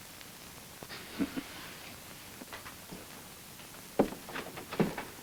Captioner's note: Bob chuckles